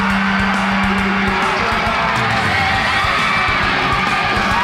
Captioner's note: shouting and encouraging reactions!